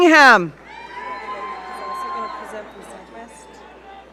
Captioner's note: audience cheering